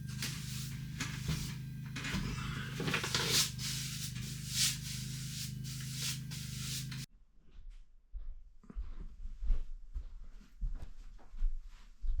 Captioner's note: scraping